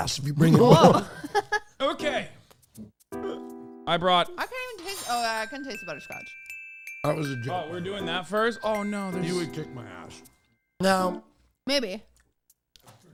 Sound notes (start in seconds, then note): 0.4 laughs